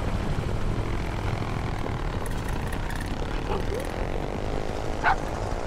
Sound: motorcycle engines revving

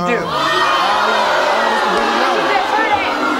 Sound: audience booing

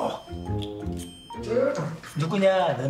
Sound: gasps

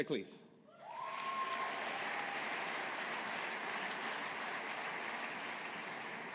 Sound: audience applauding

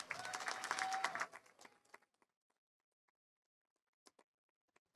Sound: audience applauding

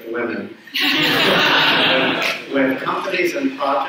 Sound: audience laughs

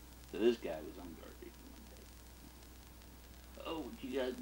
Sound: none

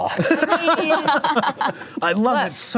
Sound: laughing

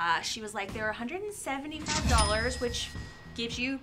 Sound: cash register dings

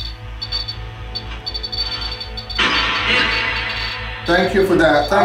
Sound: radio hissing continues

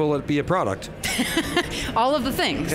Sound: laughs

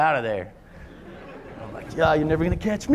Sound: laughter

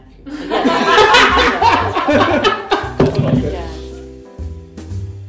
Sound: laughter

